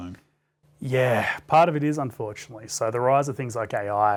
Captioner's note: sighing